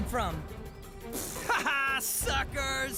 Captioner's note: Heather Blows Raspberry